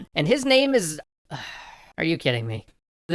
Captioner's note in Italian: profondo sospiro